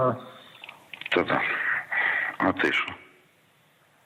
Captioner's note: speaking Russian